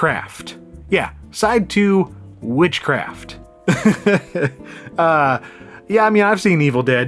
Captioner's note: laughs